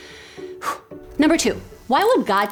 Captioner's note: exhales sharply